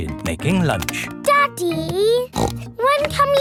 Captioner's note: snorts